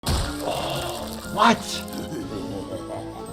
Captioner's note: gasps; Flippy laughing evilly